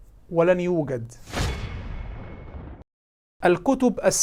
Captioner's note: sound effects